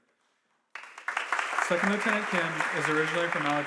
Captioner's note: audience applauding